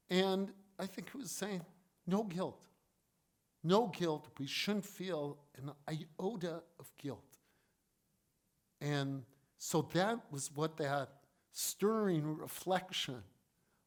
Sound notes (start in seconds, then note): none